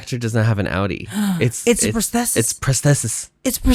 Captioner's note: gasp